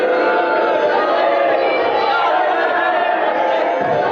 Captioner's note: audience booing and jeering!